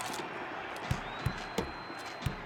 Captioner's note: rhythmic tapping